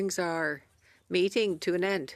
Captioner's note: speaking French